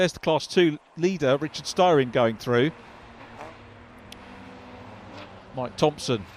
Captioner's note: car engines revving